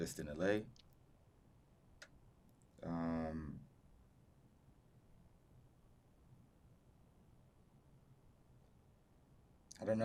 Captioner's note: pauses 8 seconds